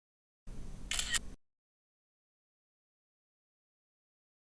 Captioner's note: camera clicks